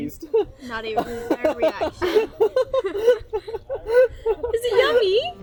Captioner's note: laughing